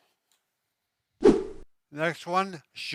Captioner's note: whoosing noise